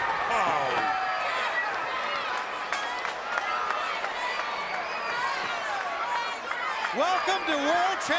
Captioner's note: crowd cheering